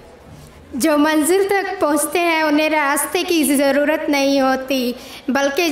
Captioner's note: speaking in foreign language